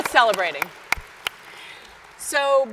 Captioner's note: audience applauds